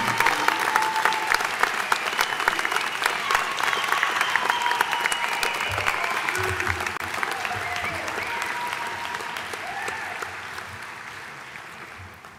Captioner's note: applause